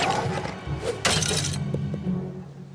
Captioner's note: smash